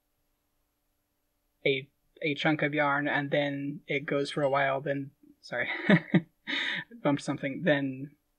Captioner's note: laughing